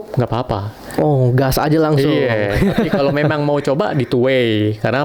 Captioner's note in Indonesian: tertawa